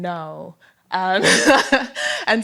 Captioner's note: laughter